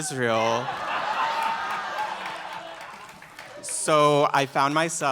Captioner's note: laughter and clapping